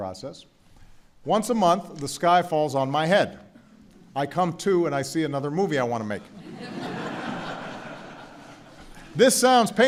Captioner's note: laughter